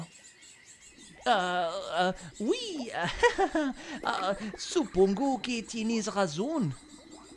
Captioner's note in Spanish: Acento Frances y medio nervioso; risa nerviosa